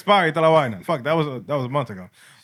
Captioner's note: non-english Speech